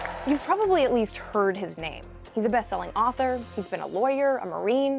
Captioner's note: cheers and Applause